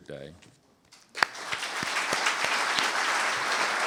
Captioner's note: applause